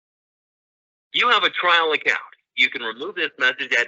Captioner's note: voice call audio